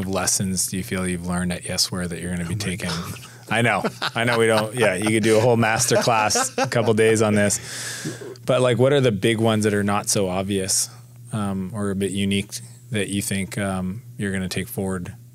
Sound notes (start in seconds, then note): 2.4 laughs